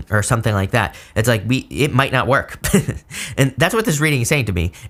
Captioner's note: chuckles